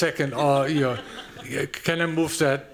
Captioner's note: laughter